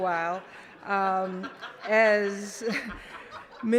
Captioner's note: laughter